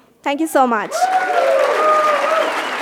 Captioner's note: cheers and applause